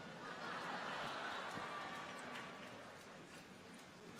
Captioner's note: audience laughs